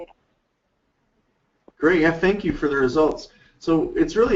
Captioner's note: voiceover